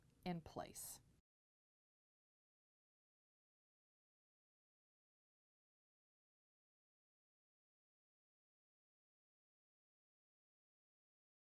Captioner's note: no Sound Present